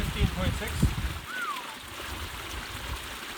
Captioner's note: whistles